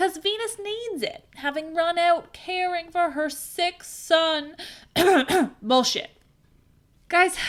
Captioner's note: cough